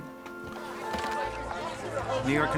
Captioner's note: workers clamoring